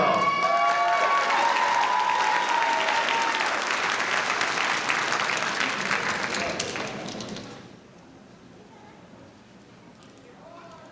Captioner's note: applause